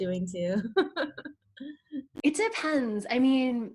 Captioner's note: laughs